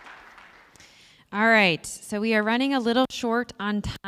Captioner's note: applause